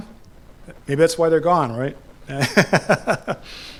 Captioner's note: laughs